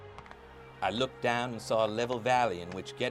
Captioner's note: voiceover